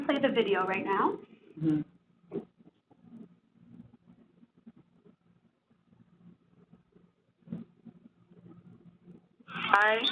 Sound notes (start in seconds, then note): 2.6 silence while is pulling up Video